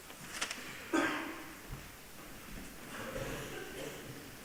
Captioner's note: coughing